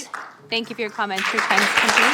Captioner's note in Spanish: Aplausos